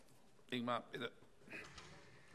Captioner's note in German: none